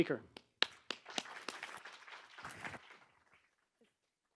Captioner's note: applause